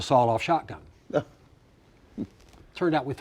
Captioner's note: chuckles